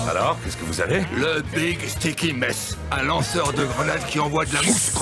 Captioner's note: speaking in French